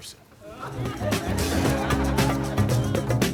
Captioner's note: audience laughing